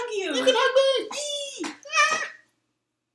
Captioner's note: squees